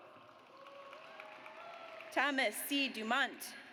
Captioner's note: audience applauds